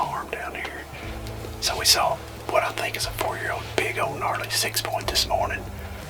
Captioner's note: whispering